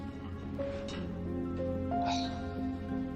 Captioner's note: sighing